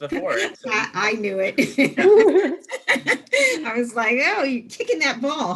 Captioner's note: laughing